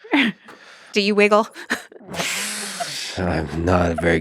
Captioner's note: laughs